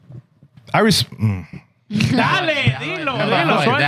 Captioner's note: non-english Speech